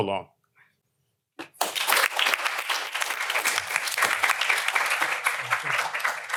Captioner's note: applause